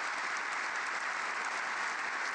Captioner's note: applause